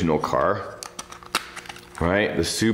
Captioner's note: plastic clicks